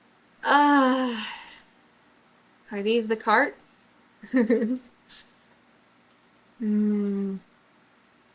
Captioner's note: laughs